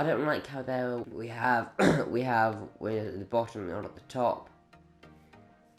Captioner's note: disgusting phlegmy throat clear